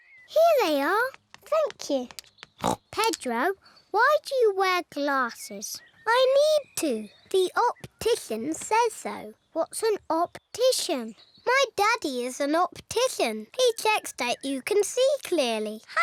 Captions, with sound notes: -Here they are. -Thank you. (SNORTS) Pedro, why do you wear glasses? I need to. The optician says so. What's an optician? My daddy is an optician. He checks that you can see clearly.